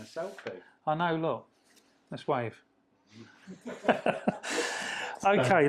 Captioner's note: laughs